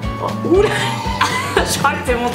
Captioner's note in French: rires